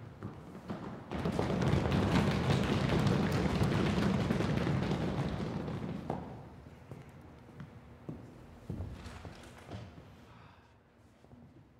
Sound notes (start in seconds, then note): 1.4 applause